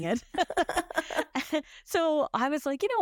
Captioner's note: both laugh